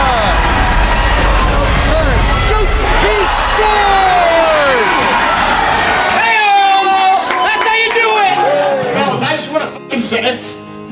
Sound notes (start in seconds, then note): 0.3 cheering; 5.1 cheering